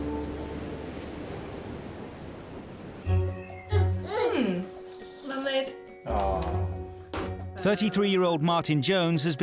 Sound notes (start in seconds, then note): 3.0 lighthearted music; 3.7 gurgles